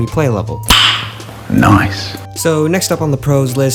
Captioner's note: excessively loud click